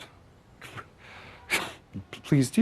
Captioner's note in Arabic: ضحكة مكتومة